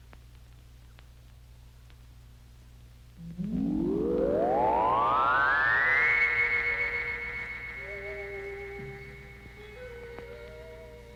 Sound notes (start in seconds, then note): 3.2 radar pulsing; 7.9 suspenseful music